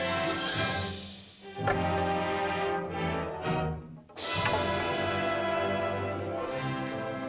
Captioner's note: suspenseful music; triumphant music; staffs clatter; triumphant music